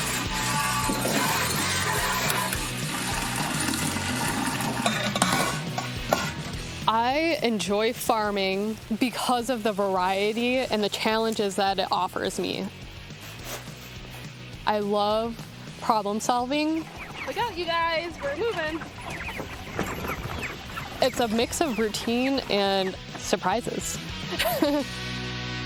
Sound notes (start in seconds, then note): 0.0 milk splashing; 5.1 metal clinking; 19.0 chickens chirping; 23.6 laughs